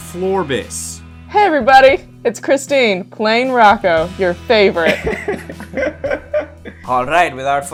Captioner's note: laughter